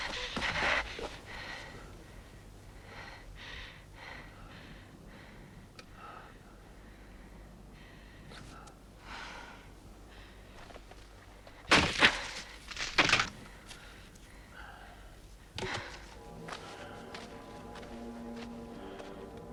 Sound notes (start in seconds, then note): 0.2 Hundra breathing heavily; 11.6 wood snapping; 15.9 dramatic music